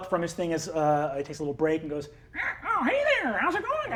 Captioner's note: caws